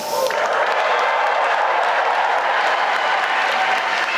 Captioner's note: applause